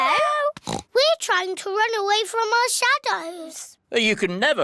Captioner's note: oinks